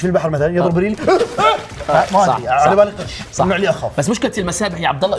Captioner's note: panics